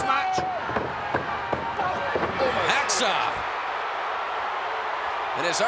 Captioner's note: applause